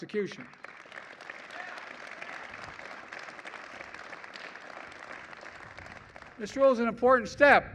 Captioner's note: applause